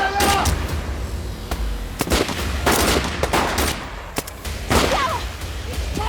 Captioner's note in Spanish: Disparos